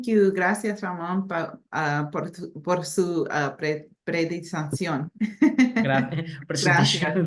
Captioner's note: speaking spanish